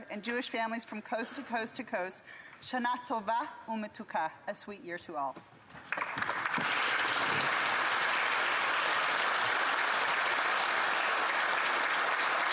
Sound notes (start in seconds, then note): 7.6 speaking alternate language; 9.3 applause